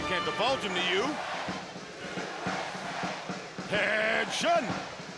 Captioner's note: crowd cheering